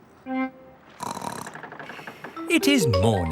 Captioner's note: snorts